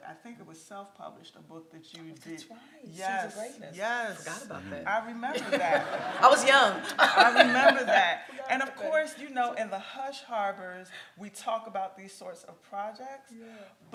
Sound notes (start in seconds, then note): 5.3 laughs; 5.3 everyone laughs